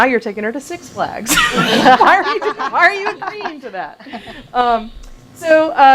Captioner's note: laughter